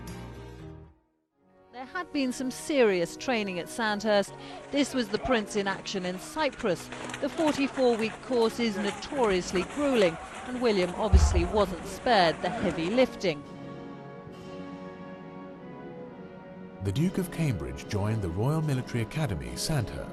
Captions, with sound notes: - [Voiceover] There had been some serious training at Sandhurst. This was the prince in action at Cypress. The 44 week course is notoriously grueling. William obviously wasn't sparred the heavy lifting. - [Voiceover] The Duke of Cambridge joined the Royal Military Academy Sandhurst